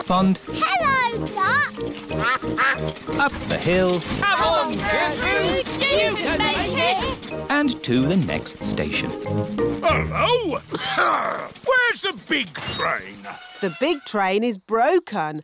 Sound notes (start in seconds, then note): 2.1 quacking; 9.8 coughs